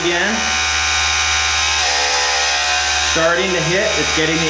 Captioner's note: mechanical whirring